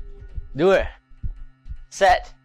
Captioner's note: foreign language